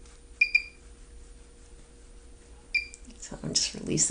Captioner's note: machine chirps